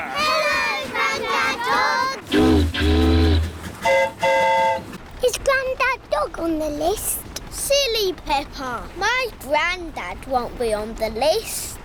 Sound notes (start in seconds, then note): 2.3 train horn toots; 3.7 boat horn honks